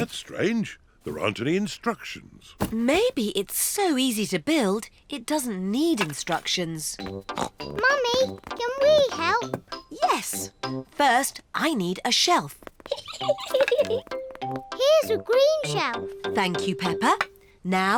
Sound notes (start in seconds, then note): 4.8 snorts; 10.5 giggles